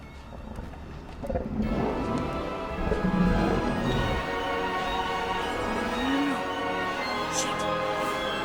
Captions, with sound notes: (Bigfoot growling) - No no no no no. Shit.